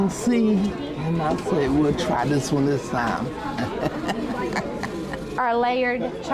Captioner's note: laughs